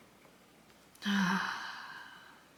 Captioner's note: sigh